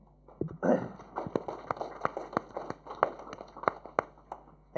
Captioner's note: applause